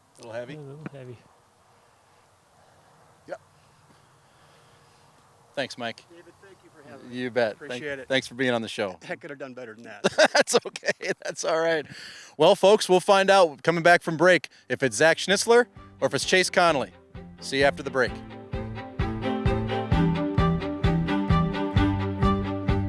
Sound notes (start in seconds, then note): 10.0 laughs; 18.3 upbeat orchestral music